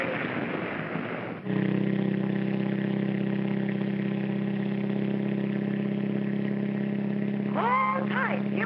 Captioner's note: wood splintering; car engine racing